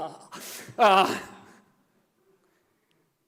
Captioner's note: grunting sound